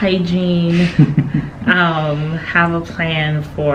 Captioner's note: laughing